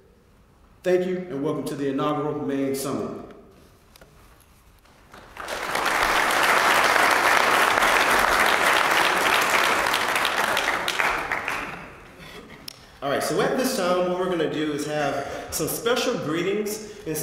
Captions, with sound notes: Thank you, and welcome to the inaugural MAIN summit. >> [APPLAUSE] >> All right. So at this time, what we're going to do is have some special greetings.